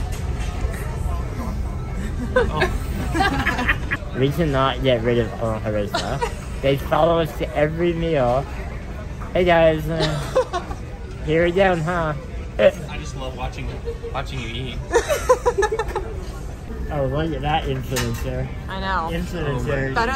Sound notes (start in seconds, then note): 3.6 laughing; 5.9 laughing; 10.0 laughing; 14.9 laughing